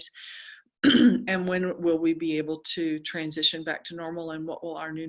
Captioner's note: cough